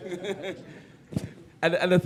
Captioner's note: laughter